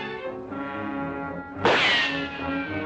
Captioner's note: gunshot